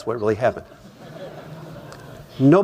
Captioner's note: laughter